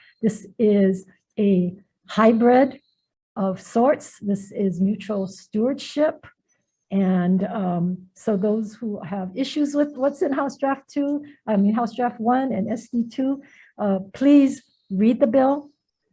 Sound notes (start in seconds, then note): none